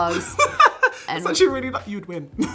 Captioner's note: laughing